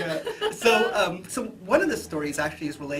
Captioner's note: laughs